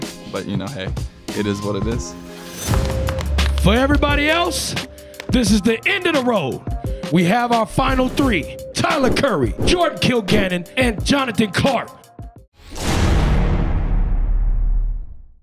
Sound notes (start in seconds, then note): 2.7 hands clapping; 12.6 dramatic music